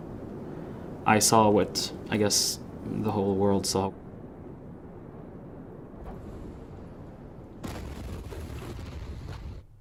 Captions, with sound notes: I saw what I guess the whole world saw. (explosion booming)